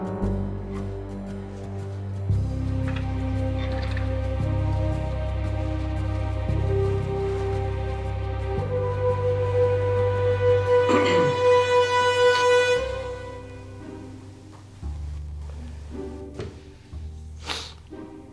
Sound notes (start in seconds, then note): 10.8 Tony clears his throat; 14.4 playful suspenseful music